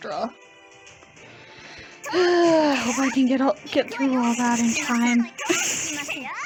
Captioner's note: sigh